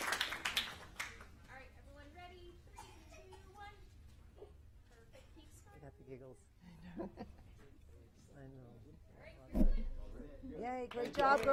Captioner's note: applause